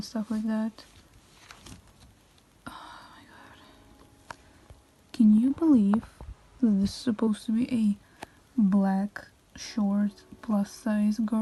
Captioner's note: sigh